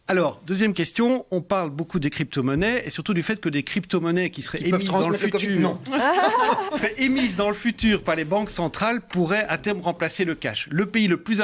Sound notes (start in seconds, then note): 4.8 laughs